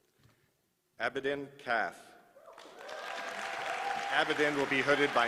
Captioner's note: applause